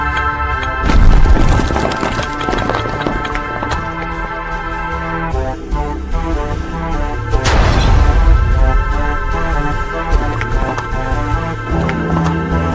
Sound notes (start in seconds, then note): 0.9 structure explodes; 7.4 brick smashes ground